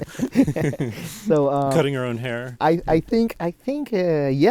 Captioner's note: both laughing